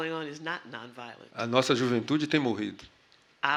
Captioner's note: speaking portuguese